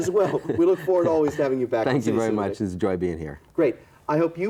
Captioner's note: both laughing